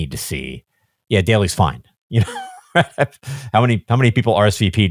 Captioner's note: laughs